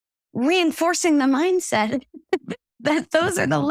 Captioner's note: laugh